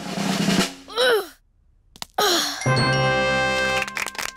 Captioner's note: drum roll; groans